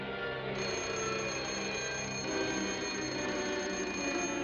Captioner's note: school bell rings